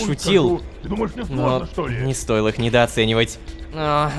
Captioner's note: background arguing